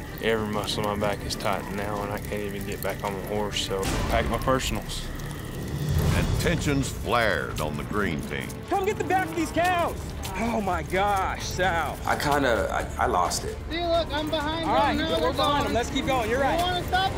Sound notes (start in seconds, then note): 13.9 both arguing